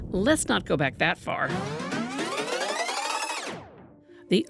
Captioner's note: rewinding